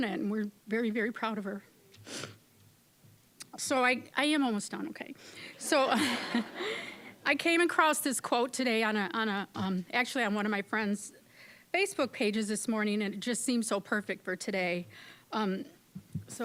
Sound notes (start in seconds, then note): 2.0 sniffling; 5.6 audience laughing